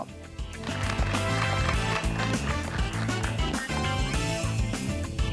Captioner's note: audience applauds